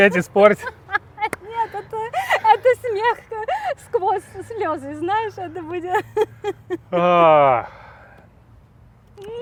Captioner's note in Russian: оба смеются; вздыхает